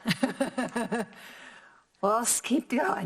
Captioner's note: laughs